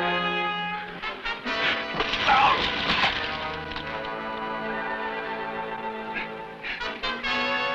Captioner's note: Esparza groans; dagger whooshes